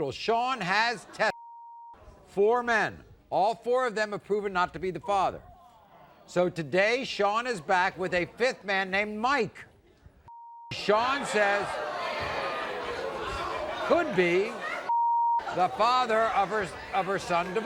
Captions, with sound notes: - In total, Shawn has tested four men. All four of them have proven not to be the father. So today, Shawn is back with a fifth man named Mike. (crowd boos) Could be the father of her son Devon.